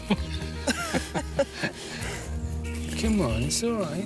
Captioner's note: laughing